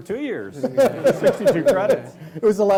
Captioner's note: laughing